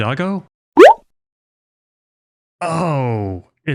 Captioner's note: bloop sound effect